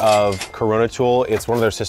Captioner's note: cash register rings